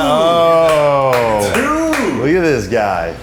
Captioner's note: claps